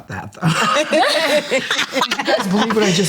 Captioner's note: group laughs